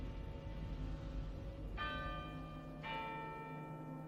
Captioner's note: clock tower chimes